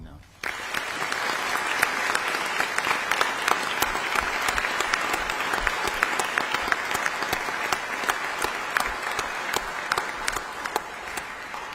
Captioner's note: audience applause